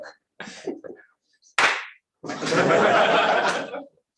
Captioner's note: clap